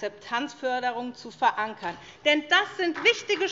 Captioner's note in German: Beifall SPD, Freie Demokraten und DIE LINKE